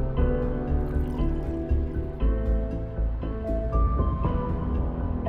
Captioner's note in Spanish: Sonido del líquido desplazándose